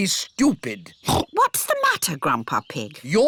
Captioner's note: oinks